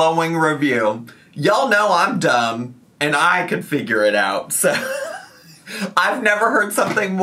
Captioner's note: laughs